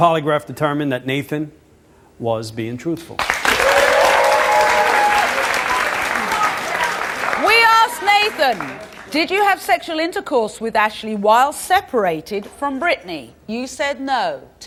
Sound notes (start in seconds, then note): 3.2 audience cheers and applauds